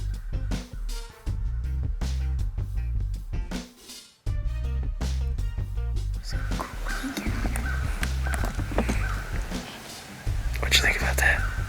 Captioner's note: whispering